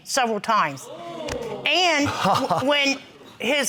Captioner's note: crowd gasping; laughing